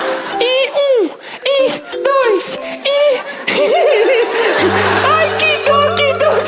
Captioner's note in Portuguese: risos